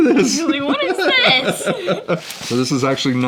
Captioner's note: murmurs